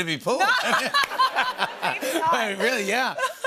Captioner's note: laughter